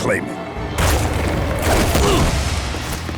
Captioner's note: groaning